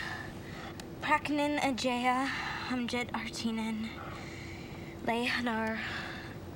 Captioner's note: Jaya speaks in foreign language